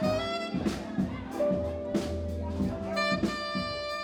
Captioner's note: people chattering